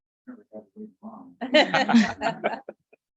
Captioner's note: talking softly; light laughter